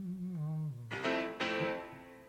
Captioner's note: phone rings